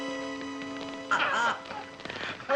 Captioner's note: people laughing